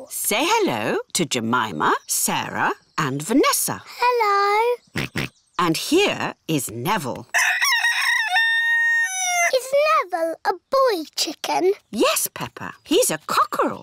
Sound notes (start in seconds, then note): 4.9 george oinks; 7.3 rooster crows